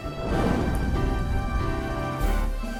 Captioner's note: lantern Smashes; flames woosh